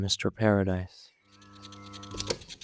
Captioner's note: recording sound; click sound off